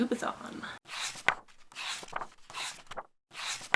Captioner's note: pages turning